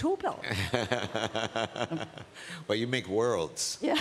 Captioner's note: laughs